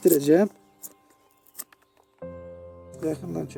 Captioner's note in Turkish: bıçağın aşı kalemini kesme sesi kırt kırt